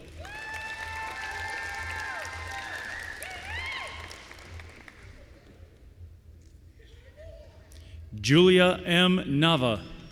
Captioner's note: applause